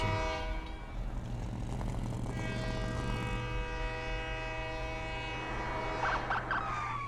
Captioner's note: flashback to train horn; TRAIN HORN,</i> <i> TRUCK ENGINE WHIRRING; train horn, police sirens